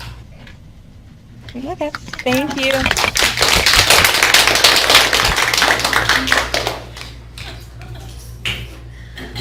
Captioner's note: clapping